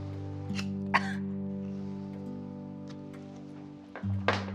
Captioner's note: Pat coughing